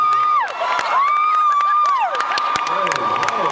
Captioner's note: cheers